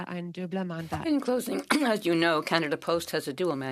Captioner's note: speaking French